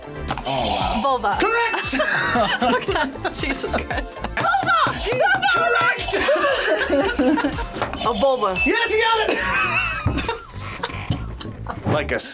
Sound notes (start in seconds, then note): 0.0 buzzer; 0.8 buzzer rings; 1.4 both laugh; 7.9 buzzer rings; 11.4 laughs